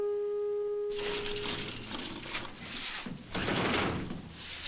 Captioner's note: shutters clattering